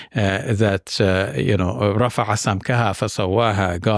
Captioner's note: speaking in Arabic